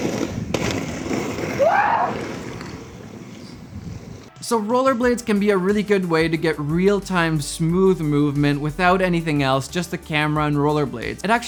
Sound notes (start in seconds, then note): 1.5 yells